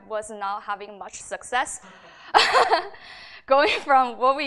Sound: laughs

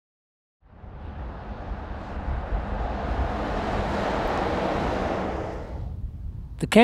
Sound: vehicle sounds

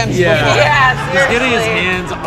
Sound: laughs

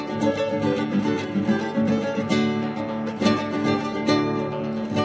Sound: none

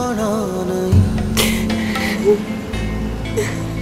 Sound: cries

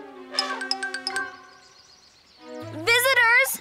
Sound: elephant trumpets

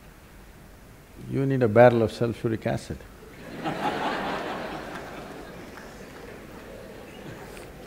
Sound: laughter

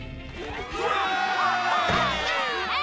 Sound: cheering

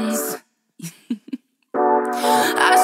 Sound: giggling

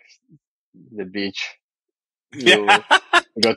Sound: <Laugh>

